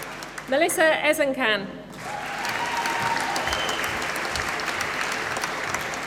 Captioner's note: applause